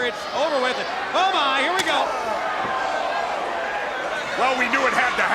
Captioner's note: chop striking